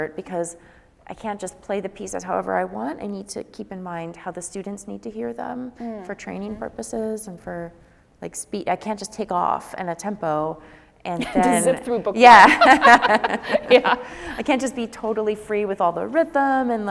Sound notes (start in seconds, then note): 12.3 laughs